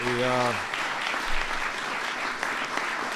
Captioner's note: applause